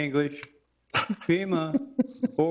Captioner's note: councilor chuckling